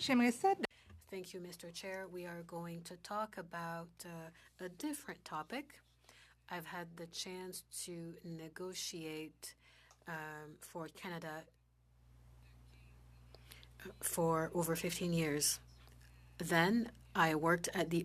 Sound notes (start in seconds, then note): 5.9 speaking French